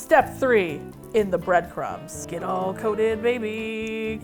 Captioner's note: singsong